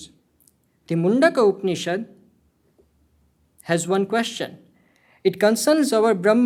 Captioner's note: hindi